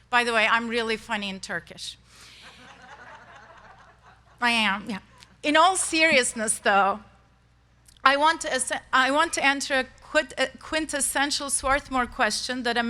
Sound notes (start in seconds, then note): 2.4 crowd laughs